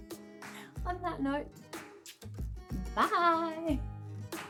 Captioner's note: kiss